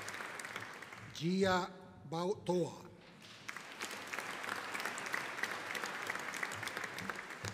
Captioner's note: audience applauding